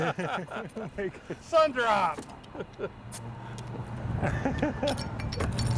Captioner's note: laughing; bottle opening